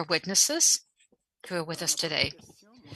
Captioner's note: speaking French